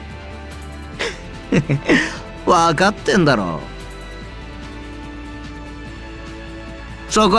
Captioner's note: chuckle